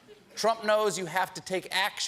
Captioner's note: laughter